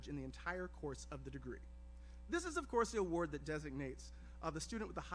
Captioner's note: none